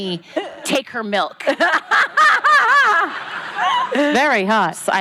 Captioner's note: laughing